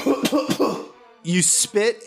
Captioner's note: coughing sounds